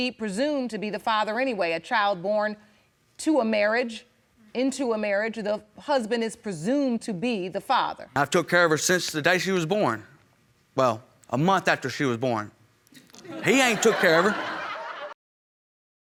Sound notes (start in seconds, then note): 13.1 audience laughing